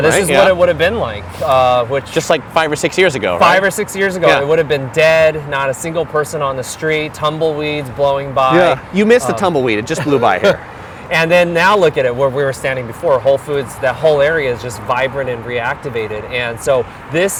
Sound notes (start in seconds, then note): 9.2 laughs